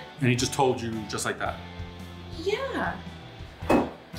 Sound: none

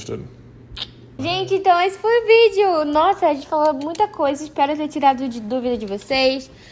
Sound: speaking in a foreign language

